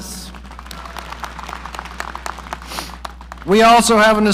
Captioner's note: audience applauding